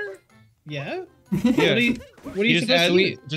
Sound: giggles

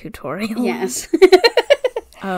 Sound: laughs

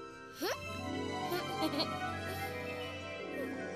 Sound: giggles

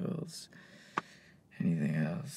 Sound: deep breath, smacks lap

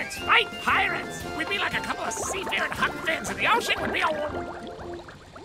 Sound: bubbling

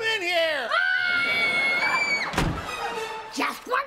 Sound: screaming

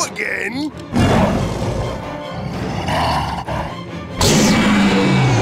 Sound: growling

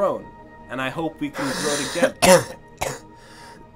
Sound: coughing

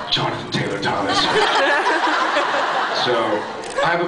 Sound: laughs

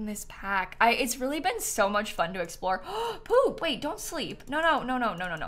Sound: gasps

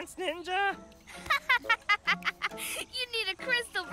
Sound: laughs

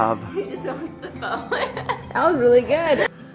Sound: laughs

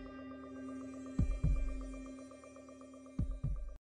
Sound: heart beat

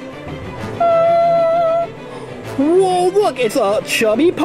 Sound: humming

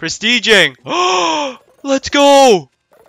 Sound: intensing gasp

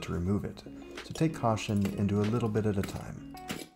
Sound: various clanky noises

